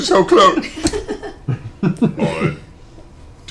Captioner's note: laughter